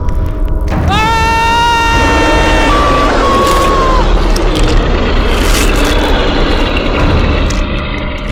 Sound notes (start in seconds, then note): 0.8 man screams; 1.9 bear growls